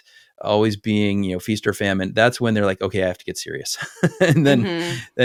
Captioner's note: laugh